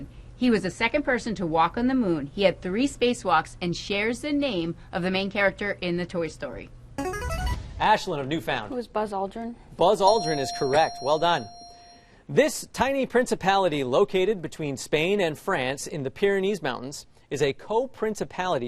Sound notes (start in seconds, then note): 6.5 buzzer